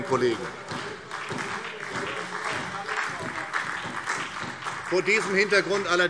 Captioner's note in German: Beifall SPD